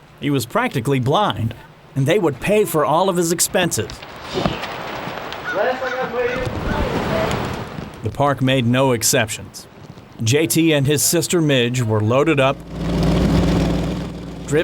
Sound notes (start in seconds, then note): 7.1 footsteps; 11.8 car starts up